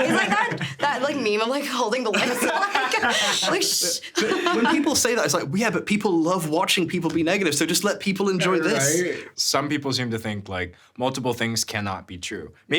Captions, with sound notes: - He's like that meme, I'm like, holding the lips. (everyone laughing) I'm like, "Shh." - When people say that, it's like, yeah, but people love watching people be negative, so just let people enjoy this. - Right? Some people seem to think, like, multiple things cannot be true.